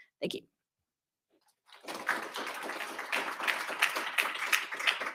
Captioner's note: audience cheers